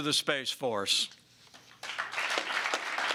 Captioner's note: applause